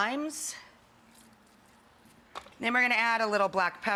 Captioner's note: juice dripping